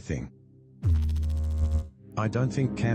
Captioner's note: electrical noise